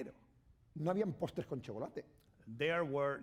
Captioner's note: speaking spanish